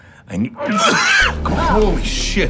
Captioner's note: Donnie vomits